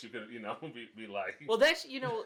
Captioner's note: laughs